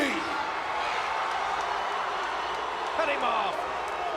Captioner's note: crowd cheering